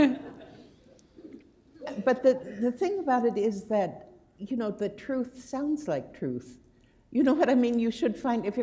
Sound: laughter

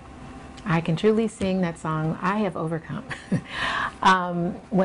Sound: giggles

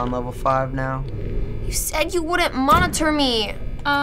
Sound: grumpily

